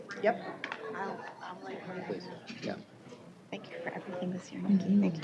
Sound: indistinct chatter

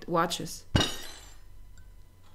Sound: table gets broken

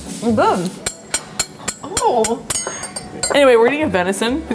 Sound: silverware clinking

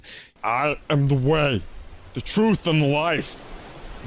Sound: phlemgy voice

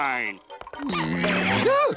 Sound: groaning

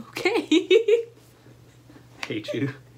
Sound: laughter

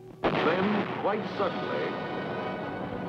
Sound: guns firing

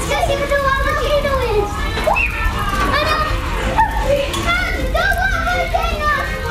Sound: children continue shouting

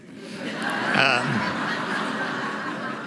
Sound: laughter

